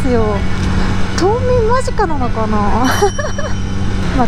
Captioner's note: laughs